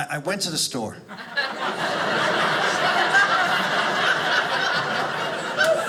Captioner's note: audience laughing